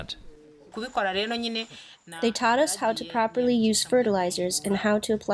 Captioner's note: through translator